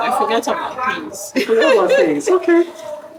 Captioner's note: laughs